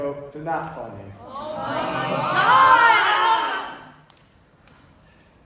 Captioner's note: all other groan